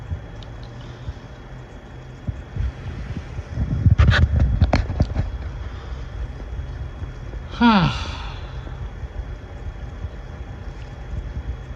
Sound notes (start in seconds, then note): 7.5 sighs